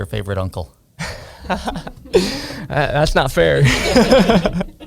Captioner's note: laughs